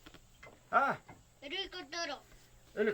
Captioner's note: speaking Yanomami; child speaking Yanomami; speaking Yanomami